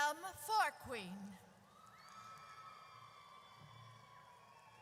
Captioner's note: audience cheers